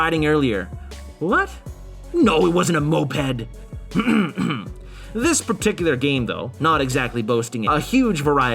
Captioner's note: ahem